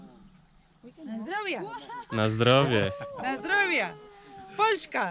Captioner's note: cheers in polish